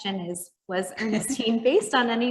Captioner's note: chuckling